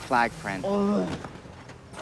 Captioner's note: groans